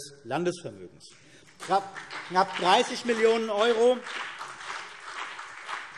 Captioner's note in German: Beifall CDU und BÜNDNIS 90/DIE GRÜNEN